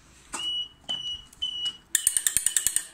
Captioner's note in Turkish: kontak açma sesi